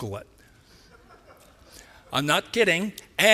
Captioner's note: laughter